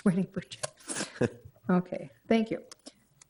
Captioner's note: chuckling